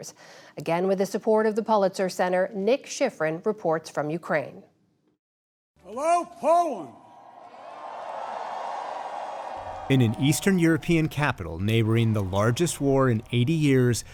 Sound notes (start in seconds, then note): 6.9 cheering and applause